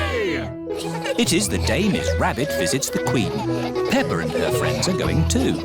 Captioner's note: all giggling